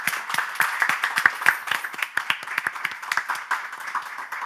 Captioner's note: clapping